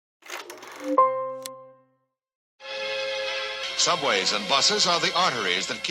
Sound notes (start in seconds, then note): 0.0 film clacking; 0.8 light music